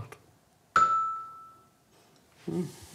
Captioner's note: bright sound